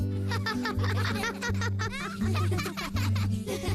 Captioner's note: laughing